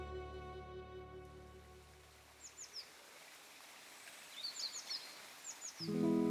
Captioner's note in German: Vögel zwitschern